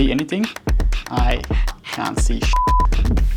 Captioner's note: beeps